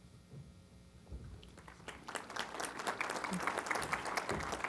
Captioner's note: applause